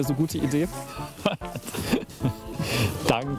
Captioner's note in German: Er lacht